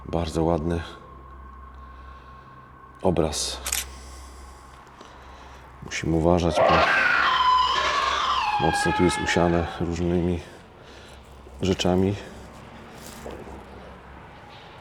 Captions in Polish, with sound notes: bardzo ładny obraz. Musimy uważać, bo [krzyk] mocno tu jest usiane różnymi rzeczami.